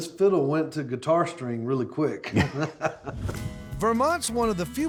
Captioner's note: laughing